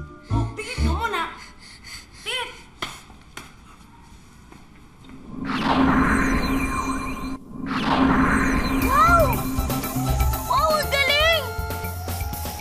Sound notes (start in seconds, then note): 1.3 panting; 5.3 magical music playing